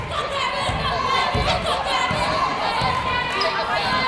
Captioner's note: yelling